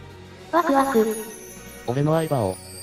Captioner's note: excited